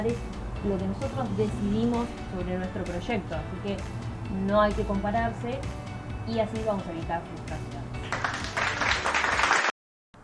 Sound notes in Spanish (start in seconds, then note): 8.0 Aplausos